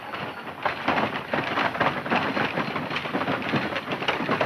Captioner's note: wagon clattering